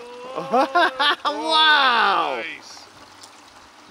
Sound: laughs

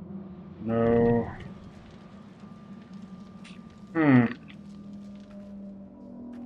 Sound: fire crackling

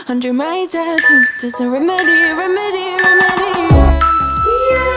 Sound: alarm beeping

